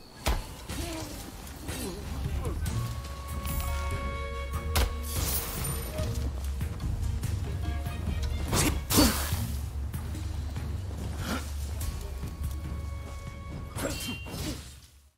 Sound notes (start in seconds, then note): 0.2 swords clash; 0.6 enemy yells; 6.8 tense orchestral music; 8.5 swords clash; 13.8 swords clash